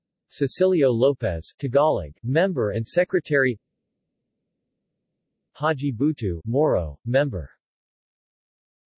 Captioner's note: Tagalog